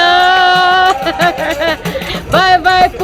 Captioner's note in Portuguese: risos